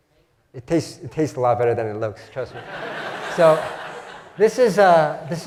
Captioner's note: laugh